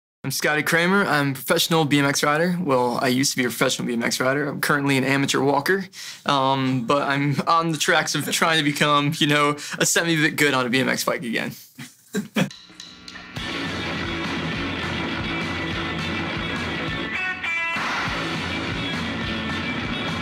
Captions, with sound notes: - I'm Scotty Cranmer, I'm a professional BMX rider. Well, I used to be a professional BMX rider. I'm currently an amateur walker. But I'm on the tracks of trying to become, you know, a semi-bit good on a BMX bike again. (man chuckles) (upbeat music)